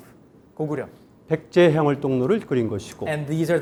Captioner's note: speaking in Korean